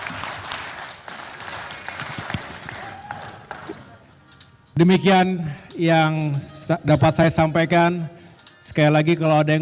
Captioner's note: applause